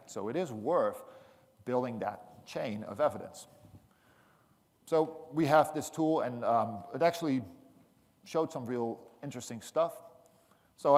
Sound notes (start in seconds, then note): none